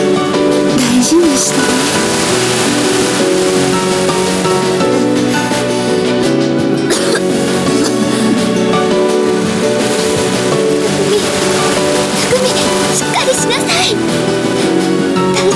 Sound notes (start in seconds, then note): 6.0 breathing; 6.8 coughing